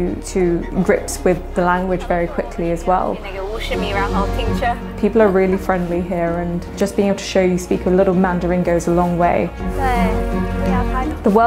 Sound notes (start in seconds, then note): 3.6 mandarin speech